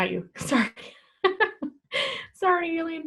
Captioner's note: laughs